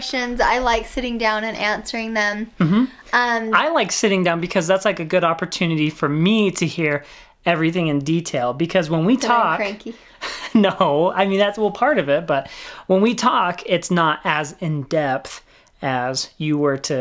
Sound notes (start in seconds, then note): 10.2 laughing